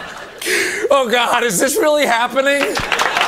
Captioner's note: sobs; audience applause